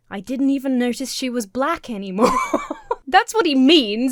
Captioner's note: Emma laughs